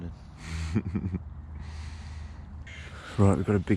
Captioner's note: laughing